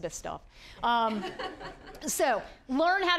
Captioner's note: audience laughing